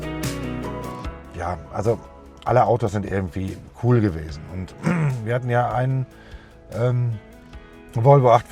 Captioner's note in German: räuspern